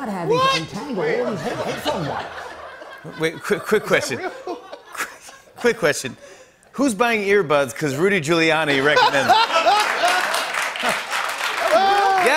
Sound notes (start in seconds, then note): 1.3 laughter; 8.7 laughter and applause